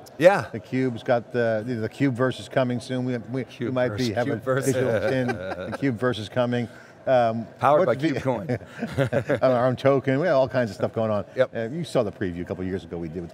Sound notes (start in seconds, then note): 4.6 both laugh; 8.7 all laugh